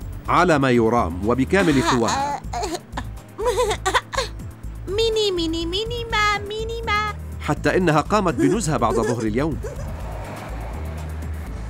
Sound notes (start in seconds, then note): 3.3 giggling; 6.2 humming